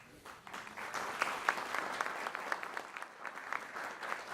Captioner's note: applause